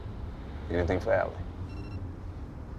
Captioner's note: phone beeps